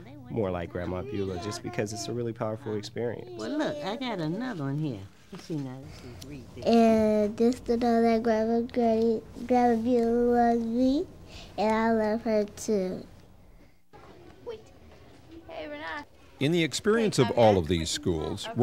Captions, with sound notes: more like Grandma Beula, just because it's a really powerful experience. >> I got another one here. [ Child speaking ] >> In the experience of all of these schools,